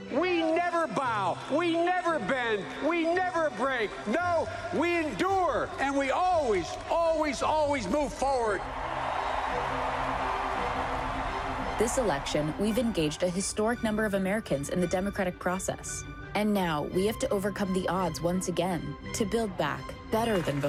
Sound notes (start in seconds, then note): 13.2 cheers and applause